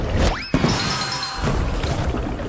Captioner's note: bell dings